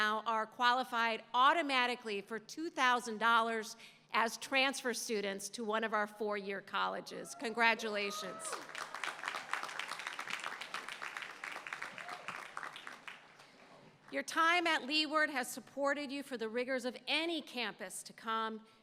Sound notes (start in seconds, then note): 8.1 applause